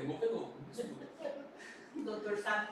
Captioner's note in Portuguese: risos